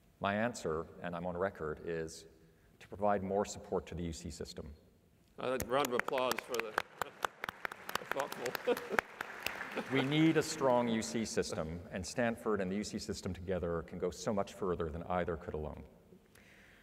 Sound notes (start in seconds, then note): 5.5 applause